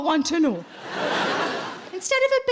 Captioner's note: audience laughing